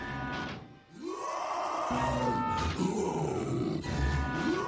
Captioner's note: Decimator roaring